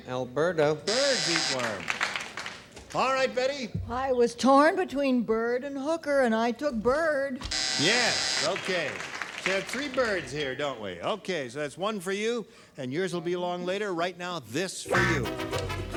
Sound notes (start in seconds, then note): 1.2 applause; 7.4 buzzer